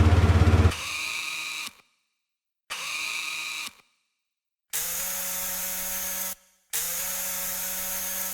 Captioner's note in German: kleines Motorgeräusch